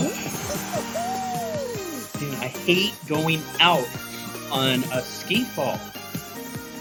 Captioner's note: groan